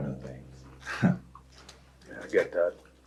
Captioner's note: chuckles